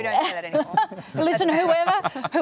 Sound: laughs

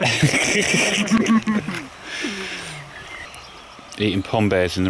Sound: laughs happily

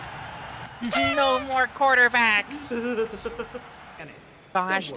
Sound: party horn

